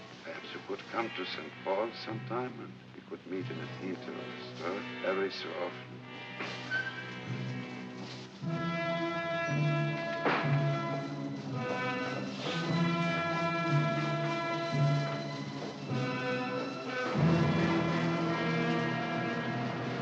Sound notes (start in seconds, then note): 6.3 door opens; 8.4 sinister music; 19.7 city street sounds